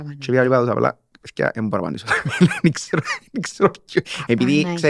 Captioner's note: laughs